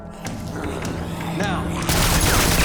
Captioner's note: zombie growling